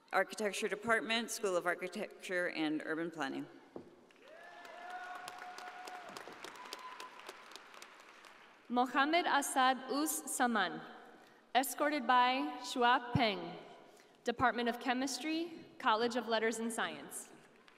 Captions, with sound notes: architecture department, School of Architecture and Urban Planning. (audience applauding) - Muhammad Asad Uz Zaman, escorted by Xiaohua Peng, department of chemistry, College of Letters and Science.